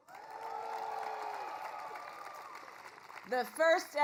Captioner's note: applause